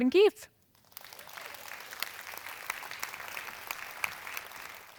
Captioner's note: audience applauding